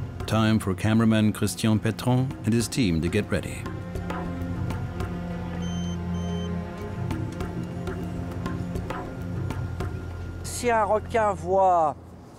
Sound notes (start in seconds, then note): 5.5 device beeps; 10.3 speaking French